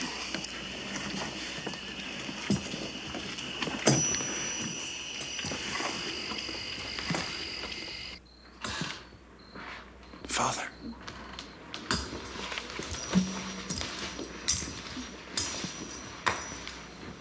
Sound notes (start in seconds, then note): 8.3 crickets chirp